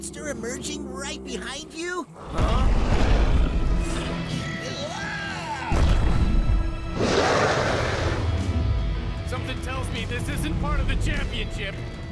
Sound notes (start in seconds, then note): 2.2 snarling; 6.9 roaring